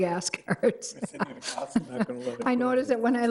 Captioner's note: committee laughing